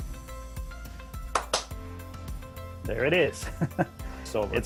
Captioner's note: clap sound